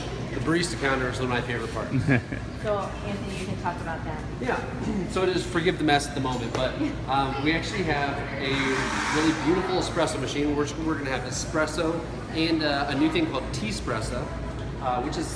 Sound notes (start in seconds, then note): 1.9 cameraman laughs